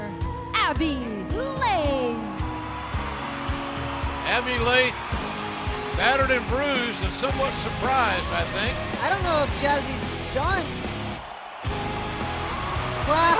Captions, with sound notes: >> HERE IS YOUR WINNER, ABBEY LAITH! [CHEERS AND APPLAUSE] >> ABBEY LAITH BATTERED AND BRUISED AND SOMEWHAT SURPRISED, I THINK. >> I DON'T KNOW IF JAZZY IS